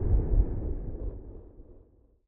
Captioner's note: creepy Atmospheric Sounds Fade Out